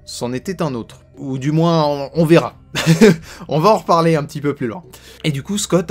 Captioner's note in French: Rire